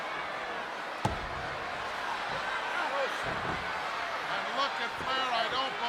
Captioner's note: audience shouts indistinctly